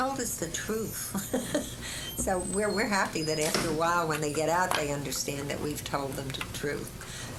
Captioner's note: laughter